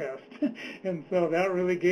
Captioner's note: laughs